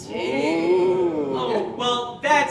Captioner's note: audience Oohing